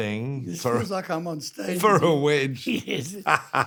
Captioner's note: laughs